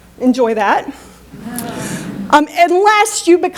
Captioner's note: chuckles